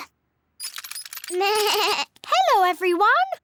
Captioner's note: bleats